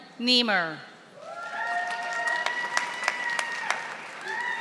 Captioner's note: audience applauding